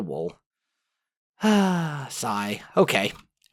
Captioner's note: sigh